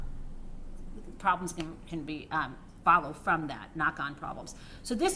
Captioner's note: ? knock ?